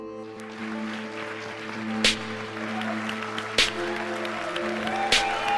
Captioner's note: audience clapping and cheering